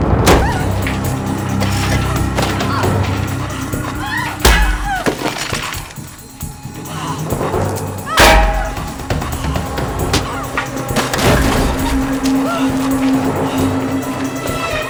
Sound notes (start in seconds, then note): 0.4 Lisa shrieks; 2.5 Lisa groans; 4.6 grunting; 8.1 shovel clanging; 11.4 clattering